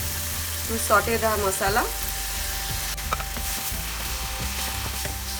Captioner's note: oil sizzling